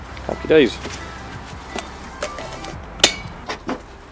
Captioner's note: cap going onto spray can